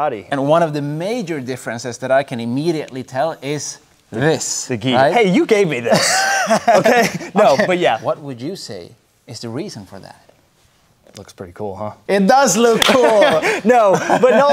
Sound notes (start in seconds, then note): 5.8 laughing; 12.8 laughing